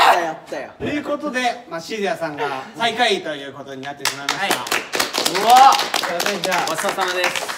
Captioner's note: applause